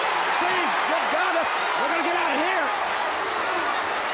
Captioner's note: crowd chatter